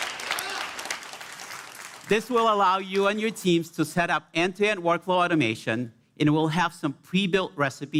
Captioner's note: applause